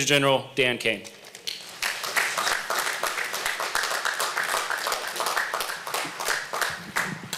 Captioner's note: applause